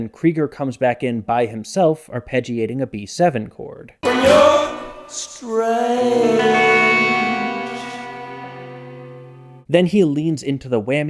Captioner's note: bang